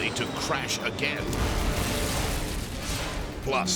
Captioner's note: jet crashes